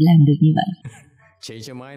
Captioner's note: laughter